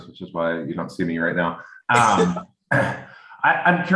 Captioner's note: laughs